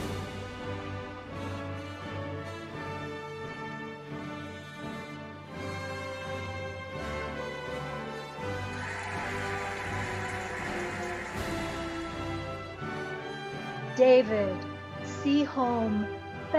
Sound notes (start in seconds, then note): 0.1 cheerful music; 8.3 cheering and applauding